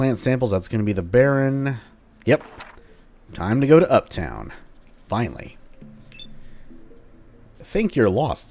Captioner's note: journal closes